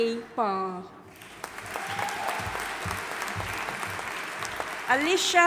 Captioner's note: audience applauding and cheering